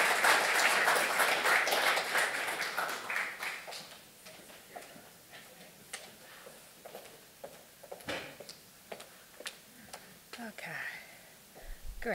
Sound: audience applause

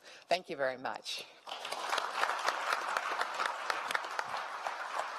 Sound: applause

